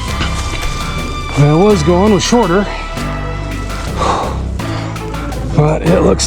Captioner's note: huff